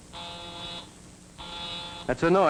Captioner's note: phone buzzes